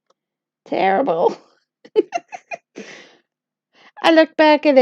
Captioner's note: laughter